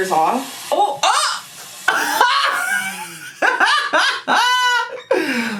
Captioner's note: gasps and laughs